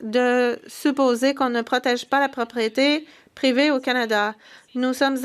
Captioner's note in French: voix de l'interprète